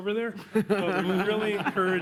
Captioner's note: laughter